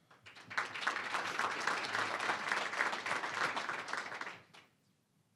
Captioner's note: applause